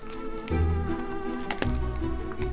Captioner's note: cronch